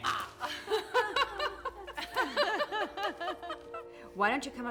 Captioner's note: laughing